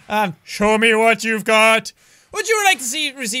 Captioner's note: monotone voice